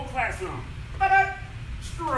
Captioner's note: enthusiastic shouting